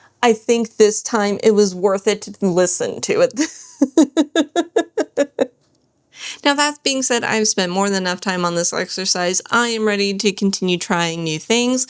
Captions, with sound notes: I think this time it was worth it to listen to it. [laughter] Now that being said, I've spent more than enough time on this exercise. I am ready to continue trying new things.